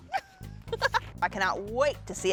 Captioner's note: laughs